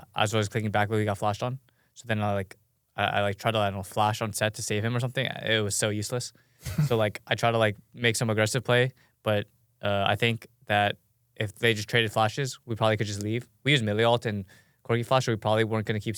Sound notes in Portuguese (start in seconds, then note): 6.6 risos